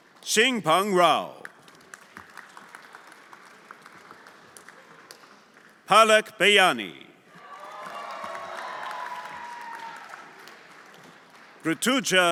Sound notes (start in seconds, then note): 0.0 everyone applauding; 1.3 everyone applauding; 7.4 everyone applauding and cheering